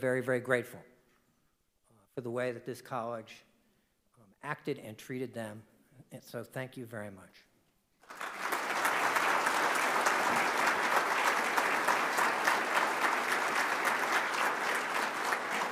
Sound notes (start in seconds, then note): 8.0 audience applauding